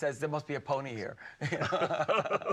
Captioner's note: all laughing